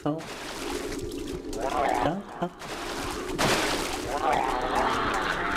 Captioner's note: screaming